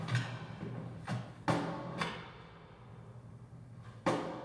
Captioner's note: banging